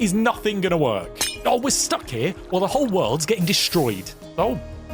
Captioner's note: glass smashes